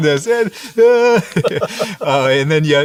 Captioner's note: laughter